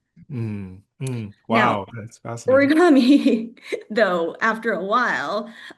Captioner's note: laughs